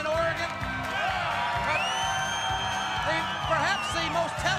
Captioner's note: crowd cheering